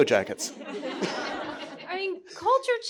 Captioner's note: audience chuckling